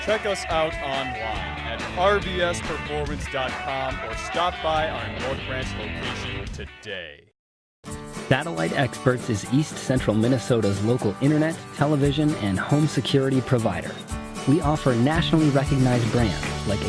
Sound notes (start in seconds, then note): 7.9 cheerful guitar music; 9.5 voiceover